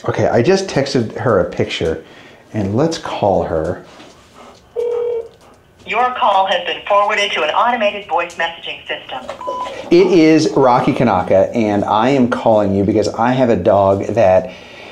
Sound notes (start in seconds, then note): 4.8 phone ringing; 5.9 automated Voice